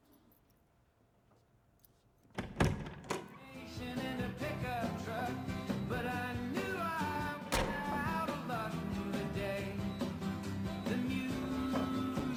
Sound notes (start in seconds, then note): 2.3 car door being opened